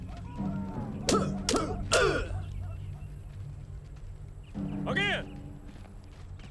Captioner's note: soldiers grunting; sticks clacking